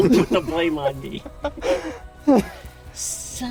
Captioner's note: laughter